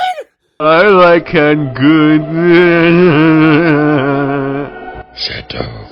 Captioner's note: Seth Rogen laugh